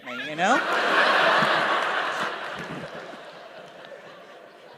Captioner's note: laughter